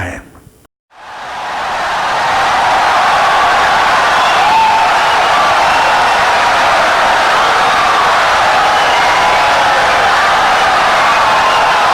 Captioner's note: wild applause and cheering for 17 seconds